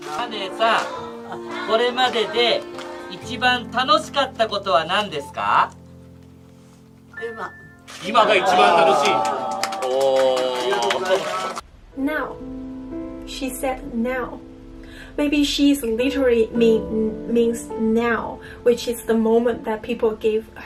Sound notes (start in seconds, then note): 0.3 speaking Japanese; 7.1 speaking Japanese; 8.2 audience gasps